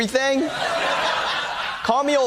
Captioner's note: audience laughing